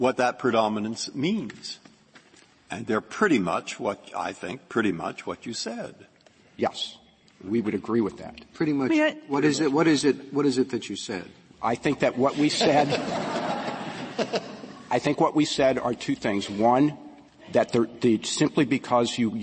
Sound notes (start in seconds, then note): 12.2 laughter